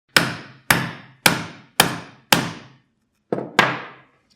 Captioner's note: hammer banging